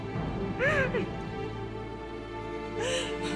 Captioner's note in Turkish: İlbilge ağlama sesi; Müzik - Gerilim